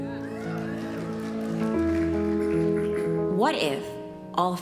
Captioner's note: applause